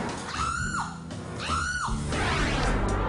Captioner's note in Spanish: gritos